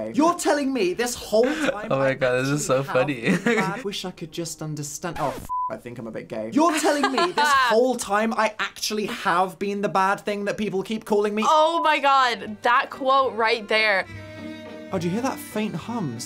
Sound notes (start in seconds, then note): 5.1 record scratch; 6.7 laughs